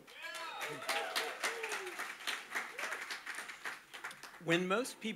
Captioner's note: audience applauding